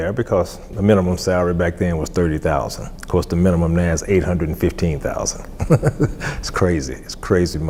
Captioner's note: laughs